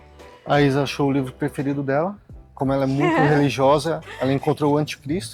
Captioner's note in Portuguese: risadas